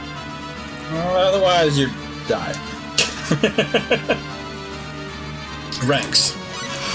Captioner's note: laughs